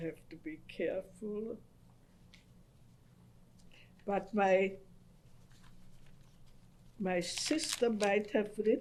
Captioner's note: pauses for 3 seconds